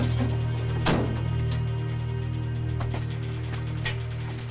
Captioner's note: truck door slams